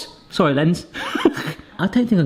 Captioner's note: laughs